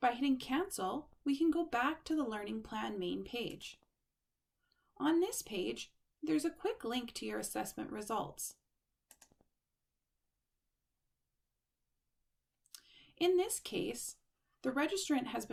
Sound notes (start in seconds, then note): 3.5 click; 9.0 click